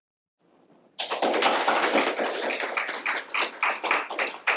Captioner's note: applause